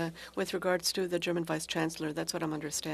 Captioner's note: speaking french